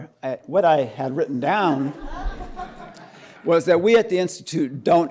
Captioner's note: laughter